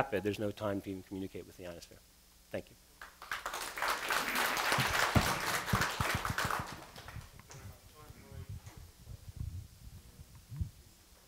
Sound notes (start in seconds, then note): 3.0 applause